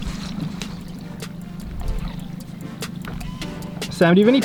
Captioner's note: water splashing